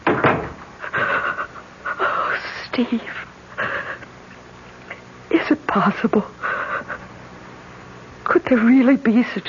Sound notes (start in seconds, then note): 0.0 door closes